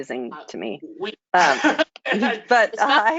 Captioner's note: laughter